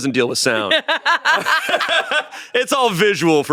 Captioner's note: everyone laughs